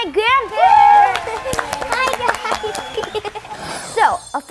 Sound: audience cheering

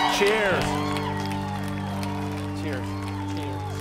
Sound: cheering

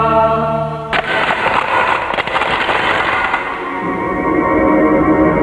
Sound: cracking sound

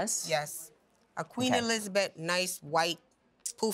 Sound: none

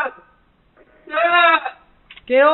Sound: screaming

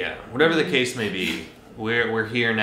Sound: chuckles

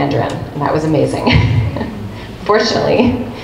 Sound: laughs

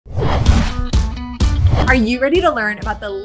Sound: upbeat music; air whooshing

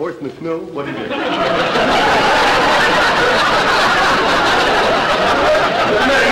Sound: audience laughter

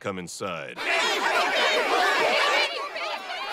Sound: everyone clamoring

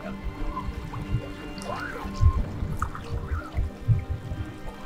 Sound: gentle music; water bubbling

